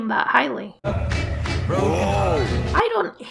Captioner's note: car Noises; old Timey Radio Noises